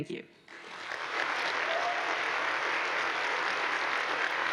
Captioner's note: audience applauds